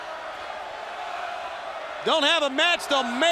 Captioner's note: crowd cheering